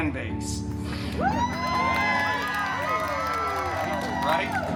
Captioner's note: guests cheering and applauding